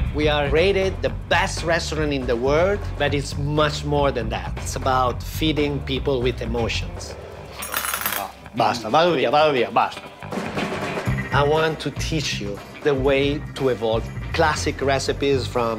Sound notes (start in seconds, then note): 8.4 speaking italian